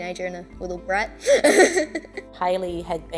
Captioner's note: laughing